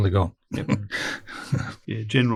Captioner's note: laughs